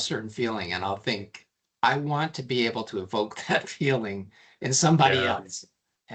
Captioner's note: chuckling